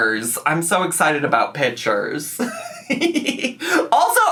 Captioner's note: laughs